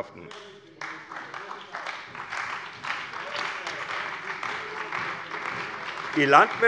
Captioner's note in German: Beifall bei der CDU und dem BÜNDNIS 90/DIE GRÜNEN